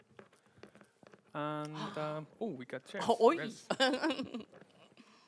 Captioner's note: laughs